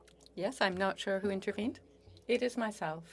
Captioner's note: speaking French